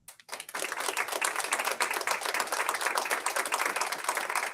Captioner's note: audience applauds